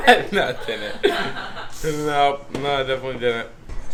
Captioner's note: kids laughing